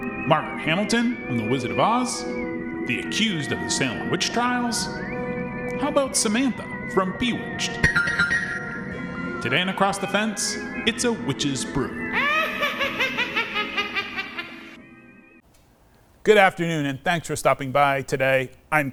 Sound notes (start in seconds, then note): 7.8 magic tinkling; 12.1 wicked laughter